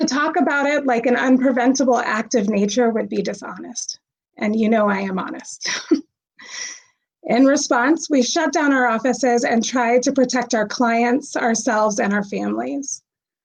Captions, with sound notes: To talk about it like an unpreventable act of nature would be dishonest. And you know I am honest. (chuckles) In response, we shut down our offices and tried protect our clients, ourselves, and our families.